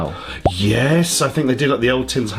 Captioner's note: bubble popping